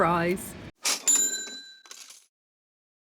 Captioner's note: cash register